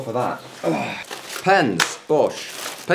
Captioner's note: exerted sighing